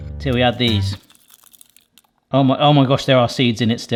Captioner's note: chilies rattling